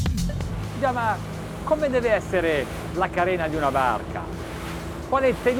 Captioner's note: speaking foreign language